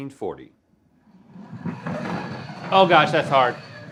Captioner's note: puck sliding